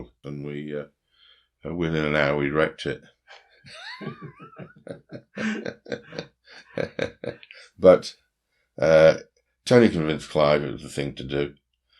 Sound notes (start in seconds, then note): 3.6 chuckles